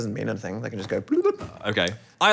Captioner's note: bubbling noise